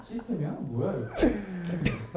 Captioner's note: mumbling